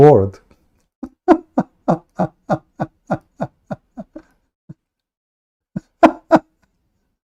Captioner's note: Ketawa